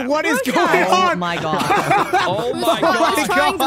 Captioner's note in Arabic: المشاركين يضحكون